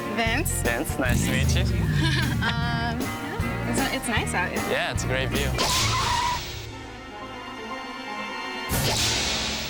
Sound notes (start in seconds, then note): 2.7 laughing; 4.9 dramatic music